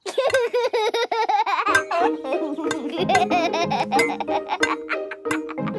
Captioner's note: laughs